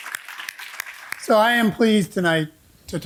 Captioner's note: audience applauding